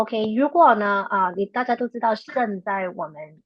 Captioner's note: speaking chinese